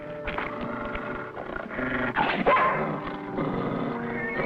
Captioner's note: growling